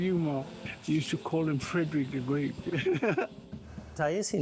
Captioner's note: laughs